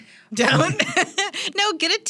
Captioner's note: laughs